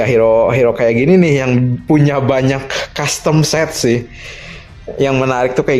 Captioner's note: gasp